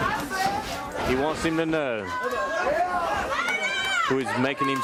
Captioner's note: crowd chatter